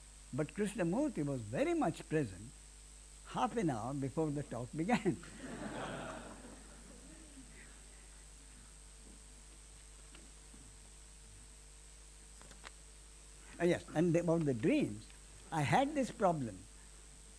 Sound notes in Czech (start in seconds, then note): 4.9 smích